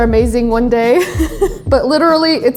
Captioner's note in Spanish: se ríe